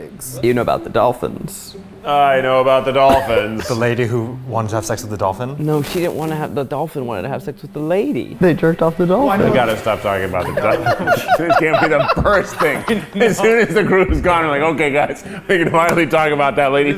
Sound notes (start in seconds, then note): 10.4 laughing